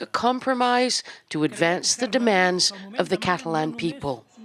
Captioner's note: speaking foreign language